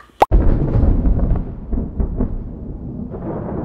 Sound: thunder

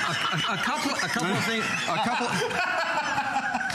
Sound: laughter

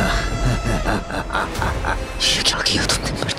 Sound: laughs

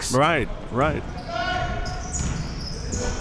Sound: yelling

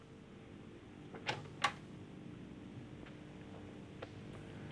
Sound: door rattles

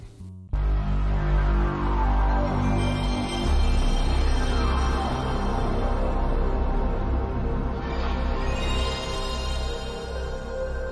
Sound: chime plays

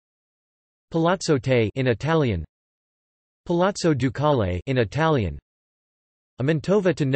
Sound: in Italian

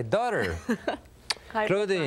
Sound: laughing

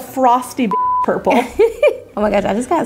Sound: laughing

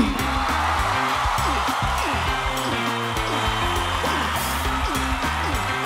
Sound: cheering; upbeat music

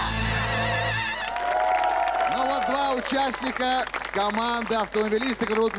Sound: applause

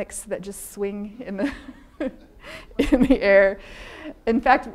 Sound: laughing; audience laughing

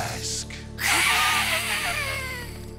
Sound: hissing

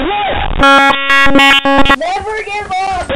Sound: beep

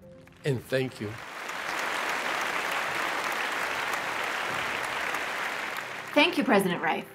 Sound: applause

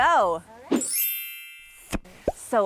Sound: twinkling

